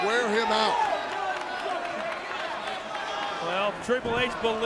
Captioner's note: applause